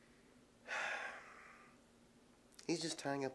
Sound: Holsten sighs

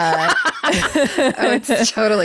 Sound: laughs

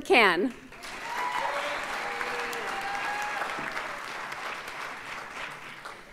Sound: audience cheers and applauds

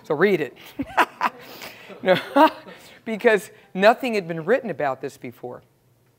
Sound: laugh

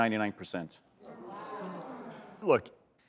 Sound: crowd murmuring

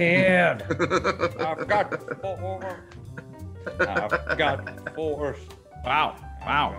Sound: laugh

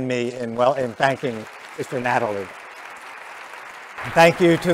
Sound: applause

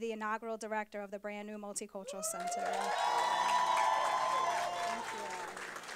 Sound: applause

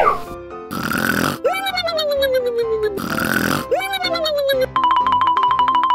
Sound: loud snoring

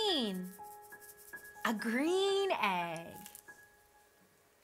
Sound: egg rattles

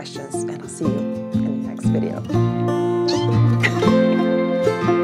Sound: squeaks; gentle music

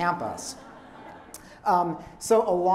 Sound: laughter

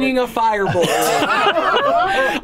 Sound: laughter

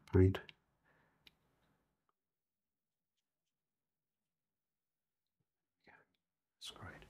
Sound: silence

